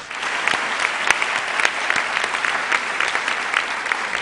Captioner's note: applause